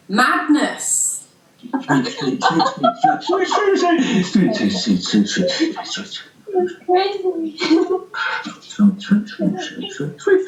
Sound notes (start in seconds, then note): 1.7 low voice making percussive random noises, high pitched laughter layered over